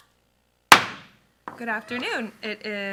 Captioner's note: gavel bangs